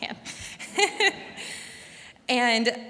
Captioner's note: laughs